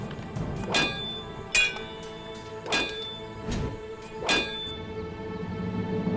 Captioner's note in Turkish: Kılıç sesleri